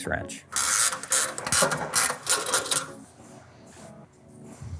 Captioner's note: wrench cranks